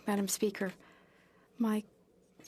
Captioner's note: speaking French